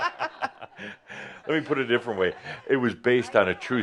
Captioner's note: laughter